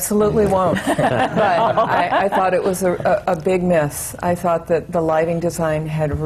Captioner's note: laughter